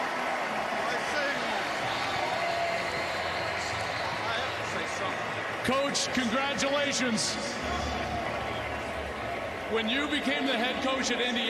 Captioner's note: cheers and applause